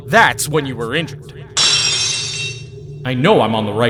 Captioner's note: lock shatters!